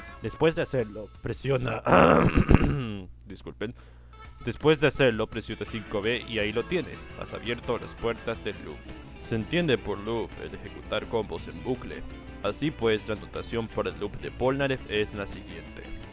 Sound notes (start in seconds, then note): 1.6 inhales